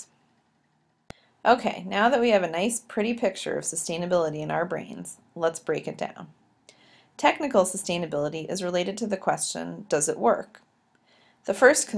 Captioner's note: click